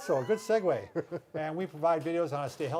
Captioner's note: laughing